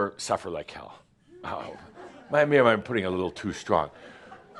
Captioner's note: a few chuckles